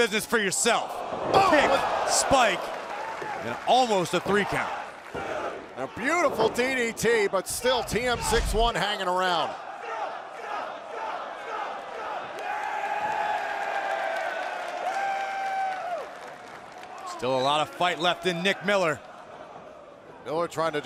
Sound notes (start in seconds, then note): 12.5 fans chanting